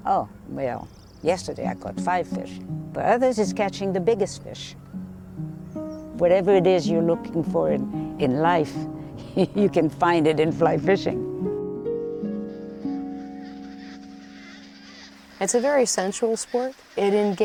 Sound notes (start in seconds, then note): 11.4 gentle music; 12.1 ducks squawking